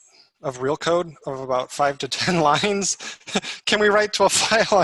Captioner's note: chuckling